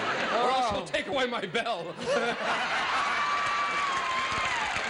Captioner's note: laughter